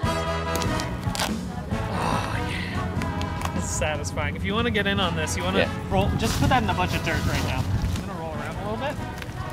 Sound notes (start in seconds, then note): 0.4 suit ripping